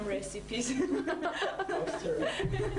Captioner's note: laughing